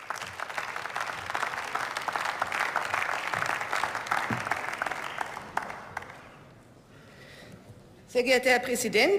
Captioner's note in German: Beifall